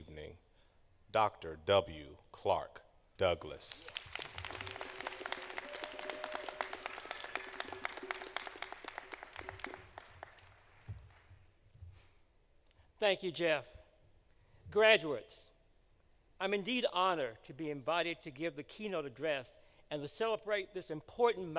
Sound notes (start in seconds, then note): 3.6 applause